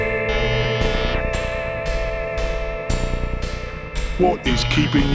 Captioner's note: machine noises